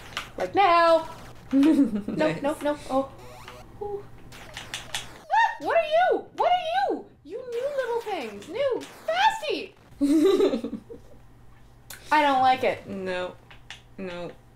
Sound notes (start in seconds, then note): 1.5 laughing; 10.0 laughter